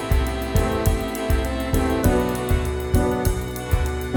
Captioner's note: none